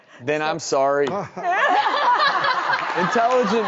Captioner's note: laughs